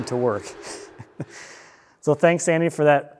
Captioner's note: chuckling